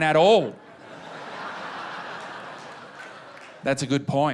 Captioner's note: laughter